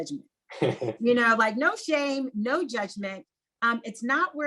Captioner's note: laugh